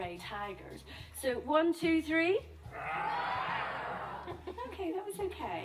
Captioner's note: roar!